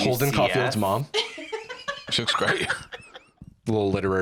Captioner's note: laughs